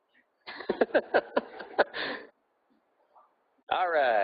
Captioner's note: laughing